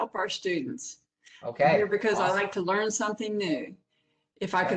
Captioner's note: professor speaking